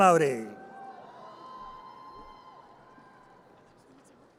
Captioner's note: audience cheers